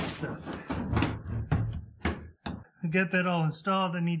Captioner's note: plastic banging